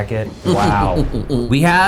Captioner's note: chuckles